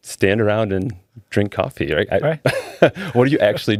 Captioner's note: laughing